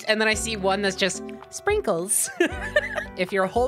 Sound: laughing

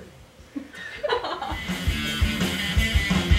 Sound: woman laughs; rock music

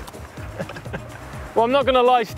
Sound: laughs

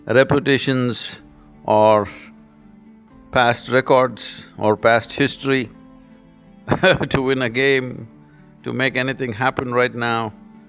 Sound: laughs

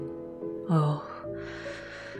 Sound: her voice giving quickly to dismay

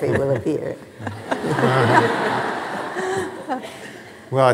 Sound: laughing

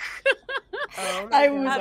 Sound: laughing

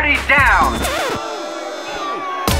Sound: crowd boos

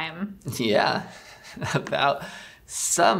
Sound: laughs

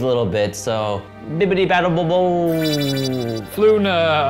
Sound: high-pitched vibrating

